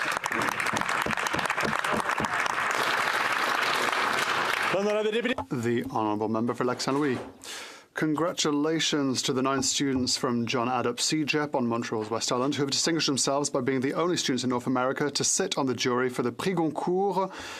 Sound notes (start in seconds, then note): 3.9 some Applause; 8.7 speaking French